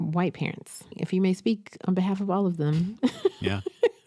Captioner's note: laughs